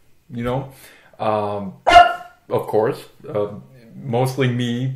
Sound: dog barks

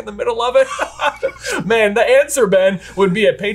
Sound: both laugh

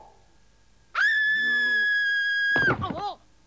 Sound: scream

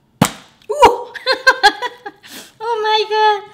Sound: laughs

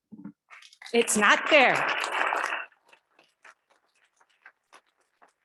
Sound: audience clapping

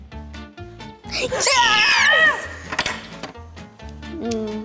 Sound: whimsical instrumental music; screams

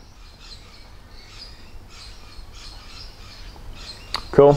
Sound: birds chirping

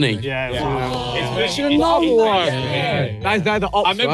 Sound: everyone exclaiming

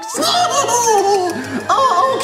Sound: laughs

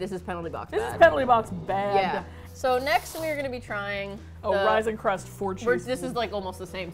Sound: blows raspberry

